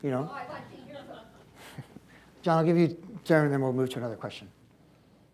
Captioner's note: chuckles; laughter